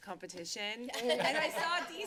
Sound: laughter

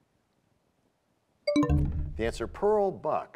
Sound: bell chimes, time expires

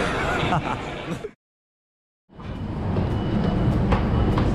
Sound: laughing

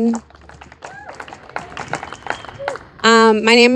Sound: audience applauding and cheering

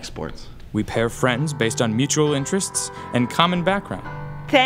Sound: voiceover

